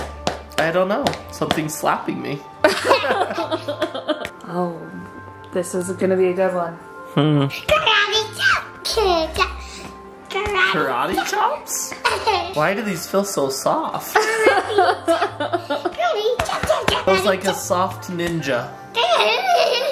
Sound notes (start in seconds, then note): 2.6 laughing; 14.1 laughing